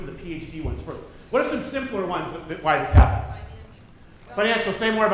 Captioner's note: none